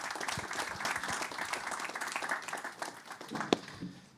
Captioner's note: applause